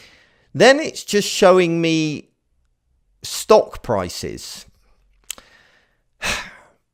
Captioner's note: exhales